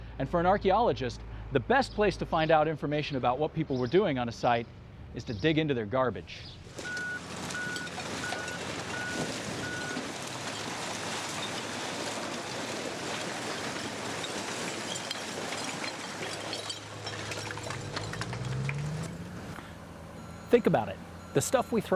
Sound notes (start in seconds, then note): 6.6 trash dumping; 6.8 beeping